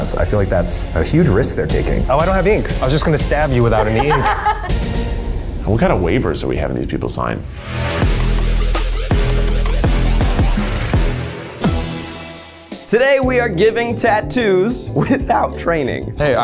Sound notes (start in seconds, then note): 4.8 laughing; 8.1 intro theme